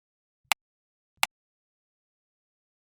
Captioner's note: click